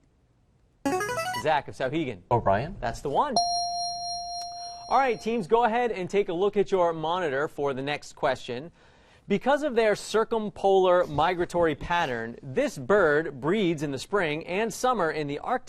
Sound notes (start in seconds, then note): 0.1 player buzzer; 3.4 ding